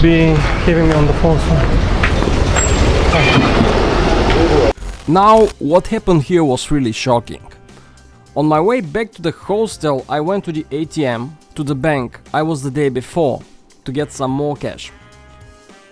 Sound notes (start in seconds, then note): none